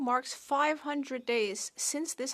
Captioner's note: speaking French